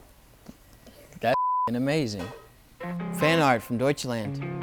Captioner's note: beep